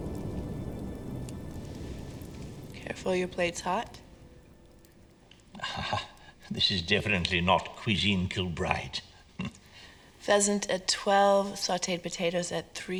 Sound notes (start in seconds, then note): 5.5 chuckles